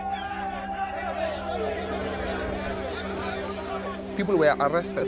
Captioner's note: indistinct shouting